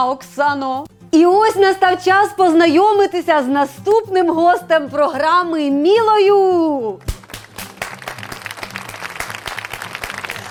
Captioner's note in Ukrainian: оплески